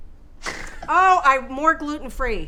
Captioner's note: laughs